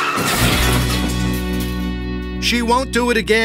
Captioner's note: crashing